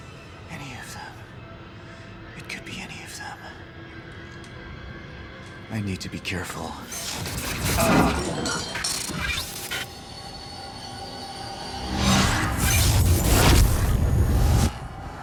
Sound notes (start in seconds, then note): 8.3 grunts in pain